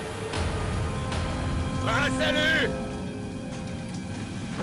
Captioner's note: speaking native language